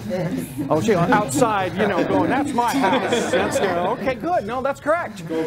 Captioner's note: laughter